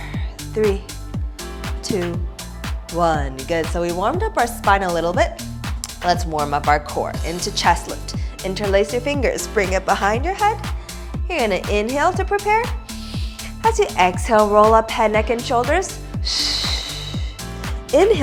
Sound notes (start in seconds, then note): 12.9 inhaling; 16.2 exhaling